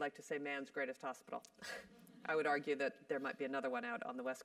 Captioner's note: laugh